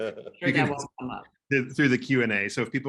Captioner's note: laughing; speaking faintly